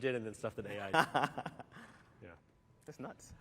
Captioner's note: laughter